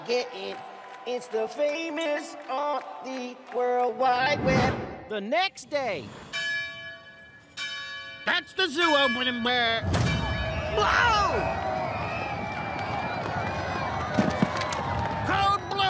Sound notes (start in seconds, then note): 6.2 bell ringing; 10.3 crowd screaming excitedly